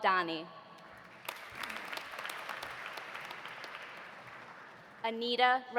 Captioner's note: audience applauding